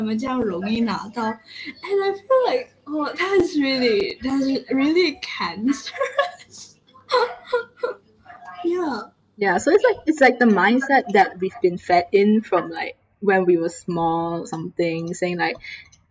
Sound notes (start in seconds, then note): 6.9 laughs